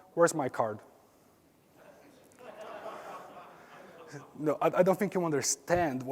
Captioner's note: laugh